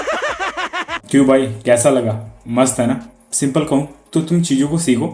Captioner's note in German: Gelächter